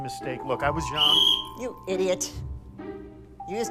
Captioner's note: whistle blows